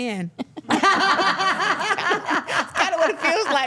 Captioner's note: everyone laughs